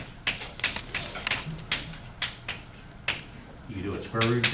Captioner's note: chalk clicking on board